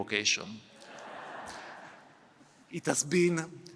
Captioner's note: laughter